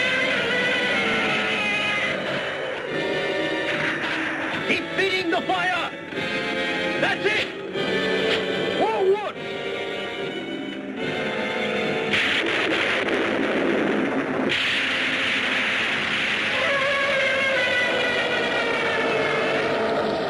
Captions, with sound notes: (Gammera screeching) - Keep feeding the fire! That's it! More wood. (lightning crashes) (Gammera screeching)